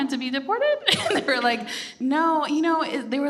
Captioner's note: laughs